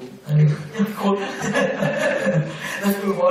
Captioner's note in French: rires